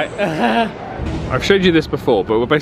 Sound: groans

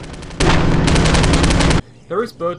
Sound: loud humming

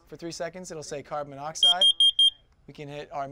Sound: loud beeping

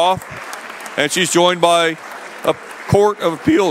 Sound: applause

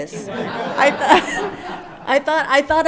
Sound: everyone laughs

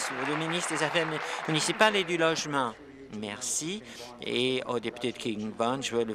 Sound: applause

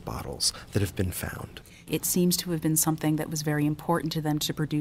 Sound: voiceover

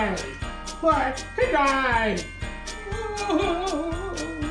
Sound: woman weeps

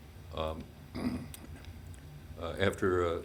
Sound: clears throat

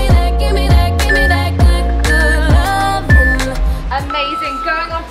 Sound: timer beeps

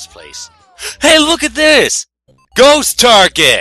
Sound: gasp

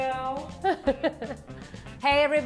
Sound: laughs

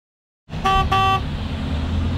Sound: bus honking

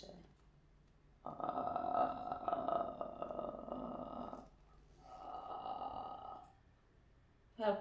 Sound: creepy gnarling

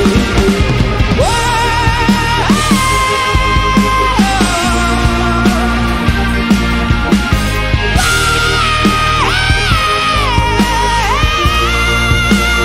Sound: vocalizing

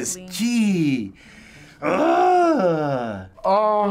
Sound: groaning

